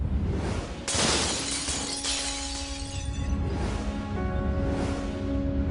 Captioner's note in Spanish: Estruendo